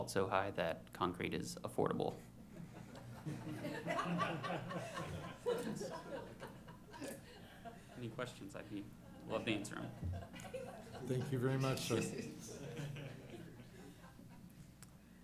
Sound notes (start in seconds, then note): 2.6 laughing